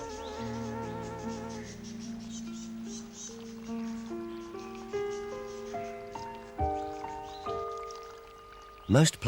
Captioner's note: birds chirping and Music plays